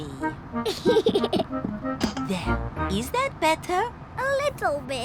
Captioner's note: giggles